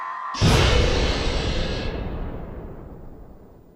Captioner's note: gadjiltron explodes